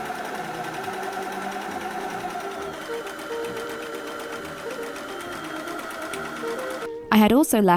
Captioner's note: overlocker whirring